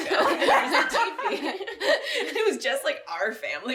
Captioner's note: laughing